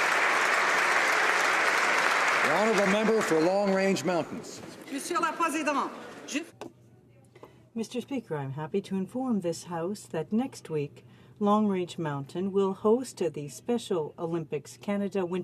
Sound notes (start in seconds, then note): 1.8 applause